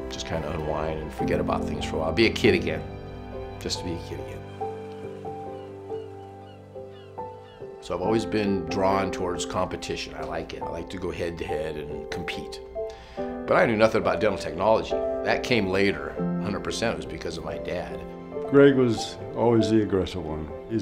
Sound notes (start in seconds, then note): 3.6 gulls squawking; 5.0 relaxing music continues